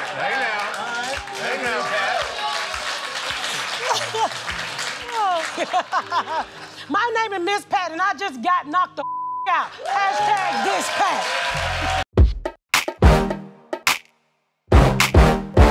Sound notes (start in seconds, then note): 0.0 cheers and applause; 3.3 laughs